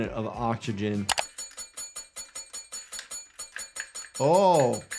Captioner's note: metal clangs